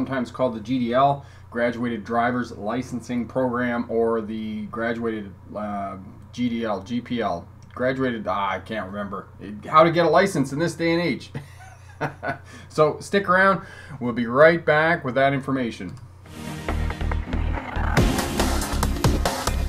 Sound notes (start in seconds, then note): 11.4 laughing; 16.2 intro & upbeat music